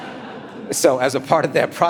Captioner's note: audience laughing